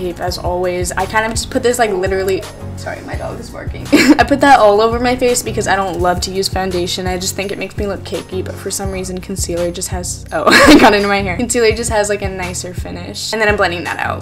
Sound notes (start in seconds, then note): 3.9 laughs